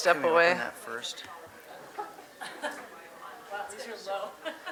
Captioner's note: audience mumbling